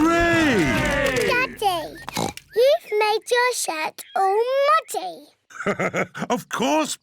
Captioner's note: oinks; laughs